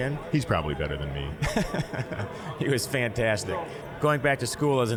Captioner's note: laughing